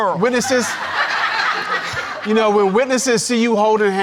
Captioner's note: audience laughing